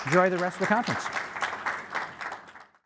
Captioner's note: applauding